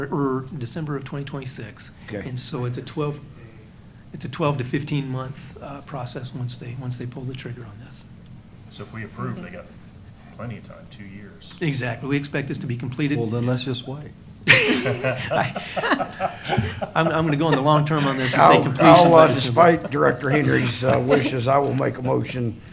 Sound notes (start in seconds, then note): 15.0 laughter